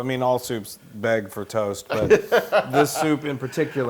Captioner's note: laugh